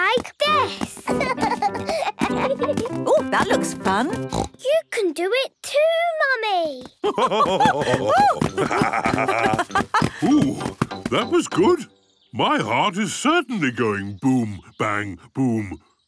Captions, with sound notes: Like this! (both laugh) - Ooh, that looks fun! - You can do it too Mummy! (both laugh) - Ooh! That was good! My heart is certainly going boom bang boom!